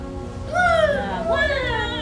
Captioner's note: seagull noises